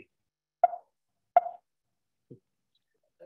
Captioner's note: notification noise, twice